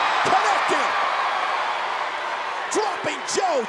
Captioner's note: crowd cheers